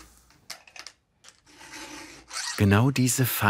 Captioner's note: filing noises